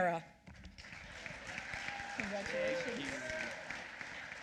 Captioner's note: applause